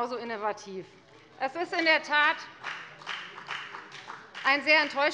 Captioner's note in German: Beifall bei der FDP